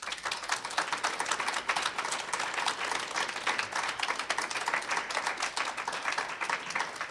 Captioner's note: applause